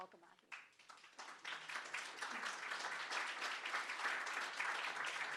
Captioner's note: audience clapping